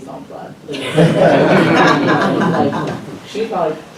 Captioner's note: laughter